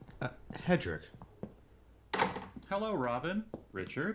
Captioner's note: door closes; footsteps